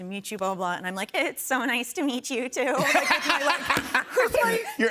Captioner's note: shaky voice; laughs